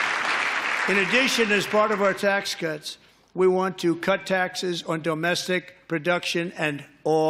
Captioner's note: applause